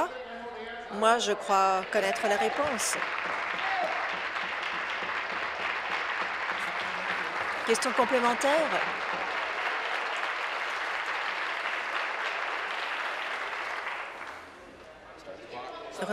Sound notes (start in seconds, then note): 5.0 applause; 14.4 continued applause